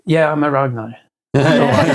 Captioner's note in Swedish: skrattar